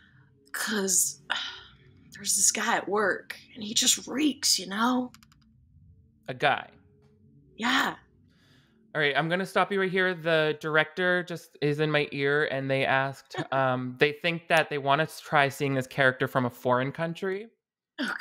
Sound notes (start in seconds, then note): none